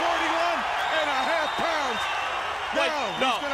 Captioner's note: crowd cheering